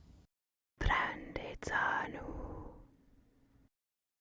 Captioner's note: whispering in Madovna